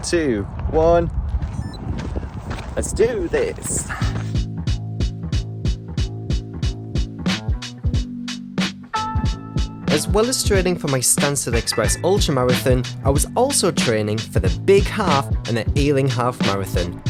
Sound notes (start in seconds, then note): 1.5 Garmin Activity Started Beep; 7.2 hip Hop Music